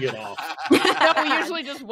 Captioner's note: group laughing